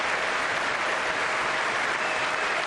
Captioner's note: applause